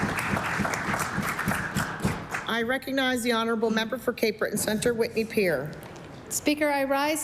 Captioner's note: applause